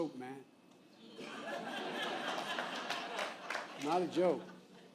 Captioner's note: laughter